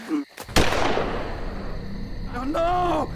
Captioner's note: gunshot